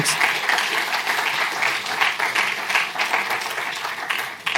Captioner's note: applause